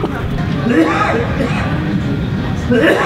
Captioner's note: some dude coughing up a lung